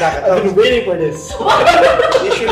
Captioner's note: laugh